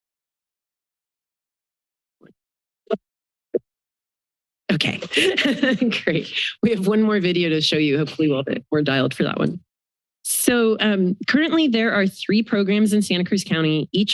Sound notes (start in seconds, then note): 5.0 laughter